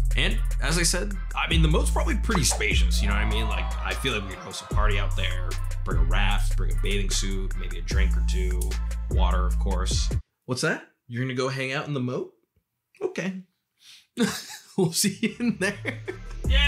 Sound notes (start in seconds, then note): 2.7 cheering; 14.2 laughs